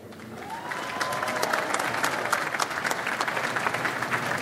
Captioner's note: audience applauds